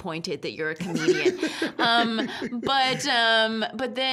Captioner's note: laughing